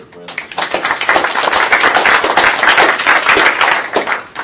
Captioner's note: applause